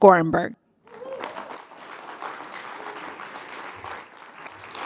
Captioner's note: audience applauds